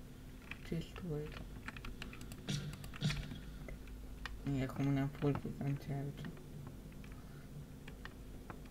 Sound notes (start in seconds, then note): 2.4 shots